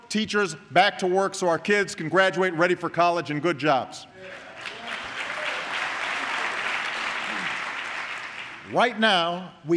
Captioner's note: applause